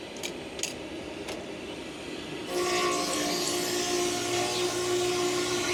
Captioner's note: machinery humming continues